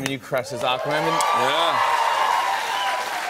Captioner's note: cheers and applause; cheers and applause continue